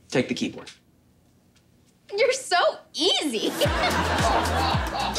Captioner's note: laughing